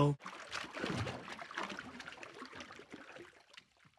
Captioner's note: water sloshing